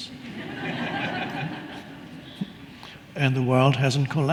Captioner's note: audience laughing